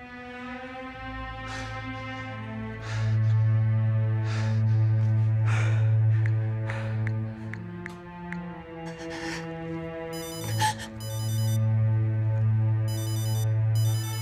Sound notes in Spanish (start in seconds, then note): 6.1 Solloza